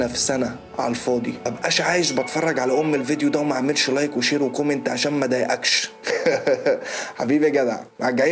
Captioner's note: chuckles